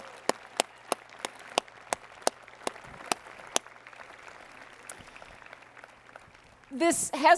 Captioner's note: applause